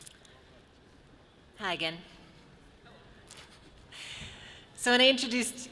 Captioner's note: none